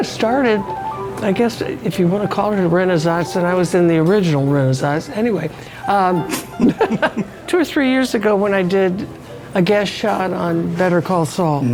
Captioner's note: laughs